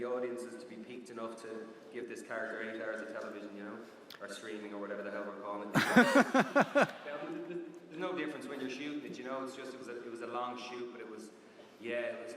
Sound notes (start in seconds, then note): 5.7 laughter